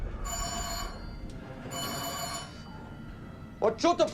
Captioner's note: alarm